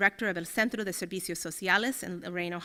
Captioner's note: speaking Spanish